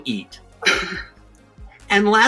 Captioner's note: chuckles